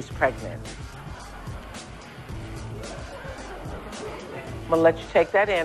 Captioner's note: audience reacts